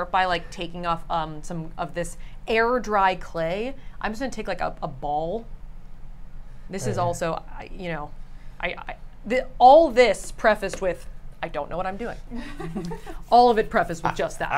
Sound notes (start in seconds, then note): 12.3 laugh